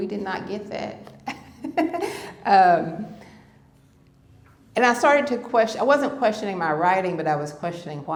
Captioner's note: laughter